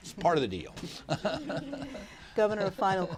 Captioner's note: laughter